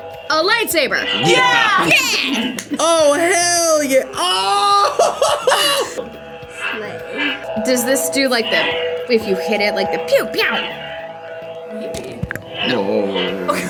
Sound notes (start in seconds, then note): 5.4 laughs